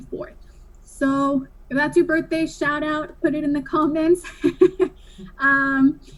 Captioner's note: laughs